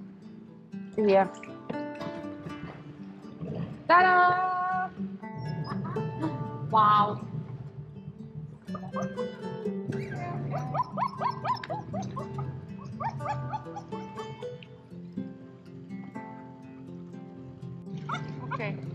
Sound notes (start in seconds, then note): 5.2 laughs; 5.3 outboard starts; 9.9 Truffle starts whining